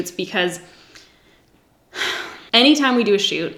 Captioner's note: sighs